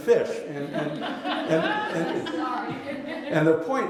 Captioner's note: laughter